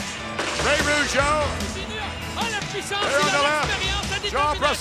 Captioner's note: speaking French